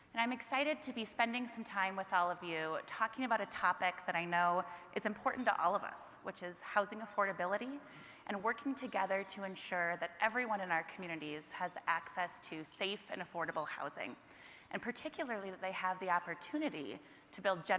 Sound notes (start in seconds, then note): none